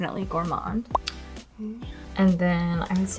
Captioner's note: image popping